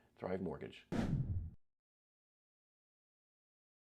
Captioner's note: logo whooshes